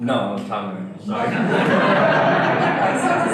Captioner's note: audience laughter